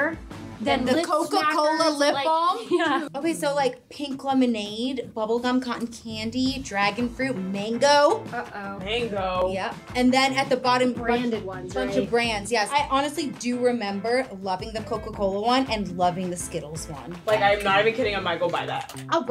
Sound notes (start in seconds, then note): 2.4 laughs